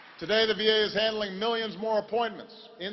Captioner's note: applause